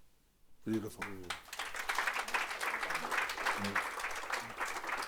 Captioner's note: audience applauding